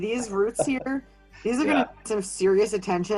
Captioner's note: laughing